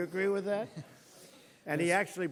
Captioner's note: laughter